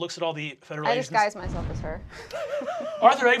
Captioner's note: laughing